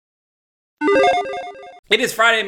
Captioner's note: logo beeps